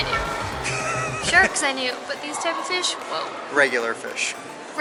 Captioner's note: laughter